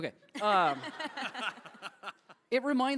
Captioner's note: laughter